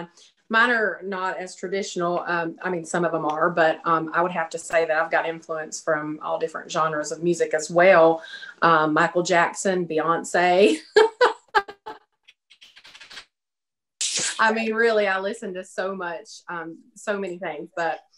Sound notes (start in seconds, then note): 10.8 laughs